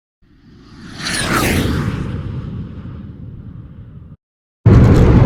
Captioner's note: plane engine